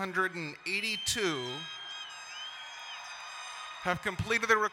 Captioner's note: crowd cheering and applauding